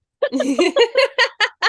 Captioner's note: laugh